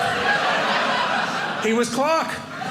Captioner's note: audience laughing